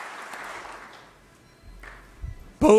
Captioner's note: applause